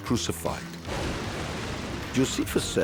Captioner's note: lightning cracking